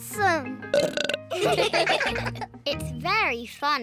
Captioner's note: burps; all laugh